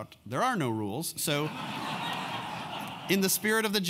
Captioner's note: laugh